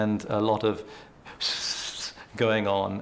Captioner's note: makes whispering sound